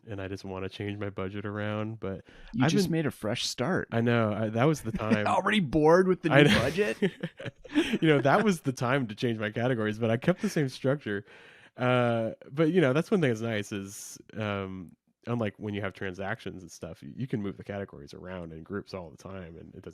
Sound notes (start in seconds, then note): 6.4 both laugh